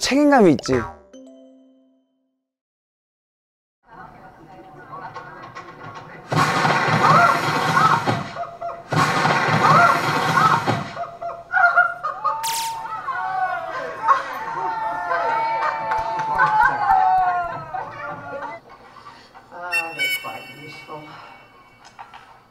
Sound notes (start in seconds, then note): 6.3 bang!